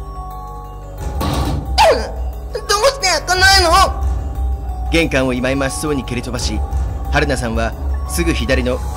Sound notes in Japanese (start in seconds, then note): 1.0 扉を蹴る音：ガン！